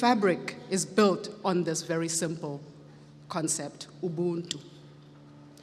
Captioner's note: speaks foreign language